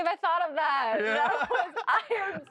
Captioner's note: both laugh